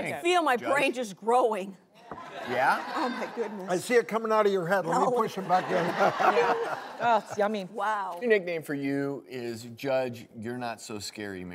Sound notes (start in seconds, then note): 2.3 audience laughs; 5.4 laughter